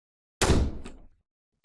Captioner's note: door slam